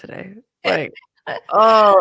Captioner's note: laughs